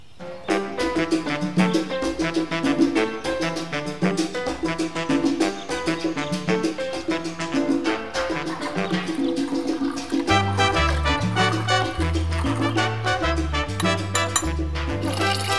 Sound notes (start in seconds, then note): 7.9 scraping SFX; 13.7 tapping SFX